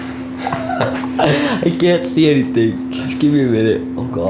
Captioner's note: laughs